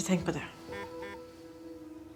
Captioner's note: phone beeps